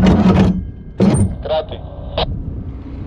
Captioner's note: captain on radio